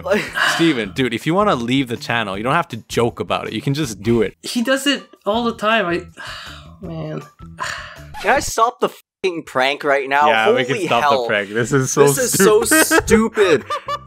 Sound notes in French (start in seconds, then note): 6.2 soupir